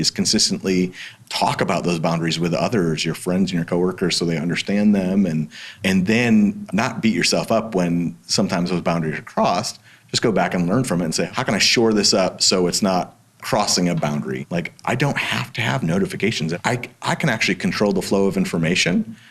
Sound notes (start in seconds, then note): none